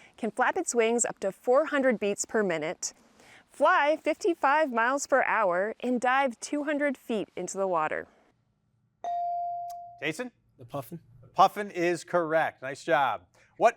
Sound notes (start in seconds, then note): 9.0 bell chiming